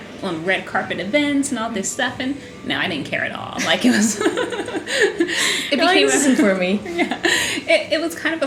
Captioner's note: laughter